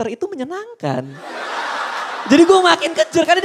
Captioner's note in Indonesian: Hahahahaha